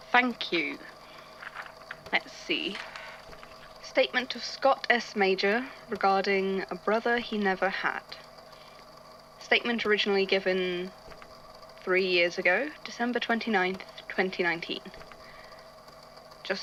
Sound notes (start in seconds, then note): 2.4 pause, desk chair creaks